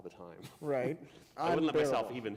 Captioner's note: chuckle